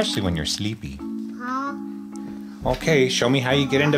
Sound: mumbles

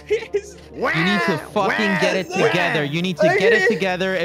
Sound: crying mockingly

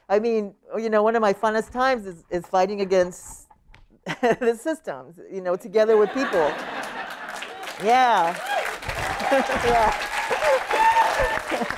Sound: laughter; applause

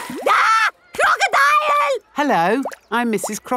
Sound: screams

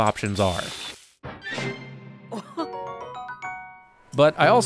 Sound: Zelda cooking sounds

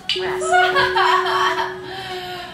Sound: sounds of pain

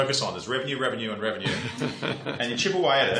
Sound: laughter

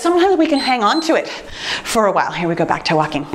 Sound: timer beeps

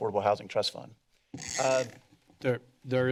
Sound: mic squeaking

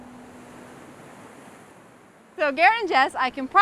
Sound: waves crash

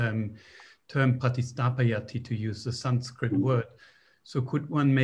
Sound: non-english speech

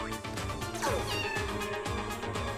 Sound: meowing

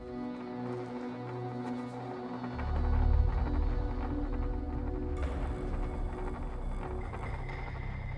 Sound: rattling sound

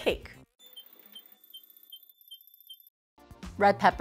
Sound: electronic beeping

